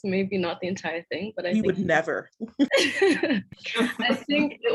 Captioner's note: all laughing